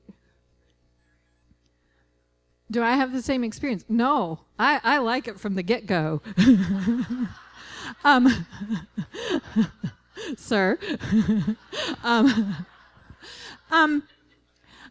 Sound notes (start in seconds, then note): 6.3 laughter; 11.4 laughing